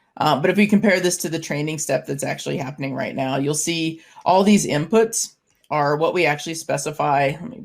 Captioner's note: none